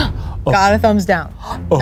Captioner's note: gasps